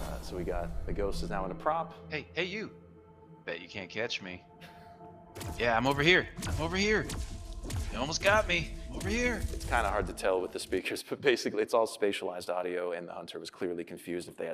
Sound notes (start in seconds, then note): 5.1 zaps